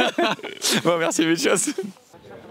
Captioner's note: laughs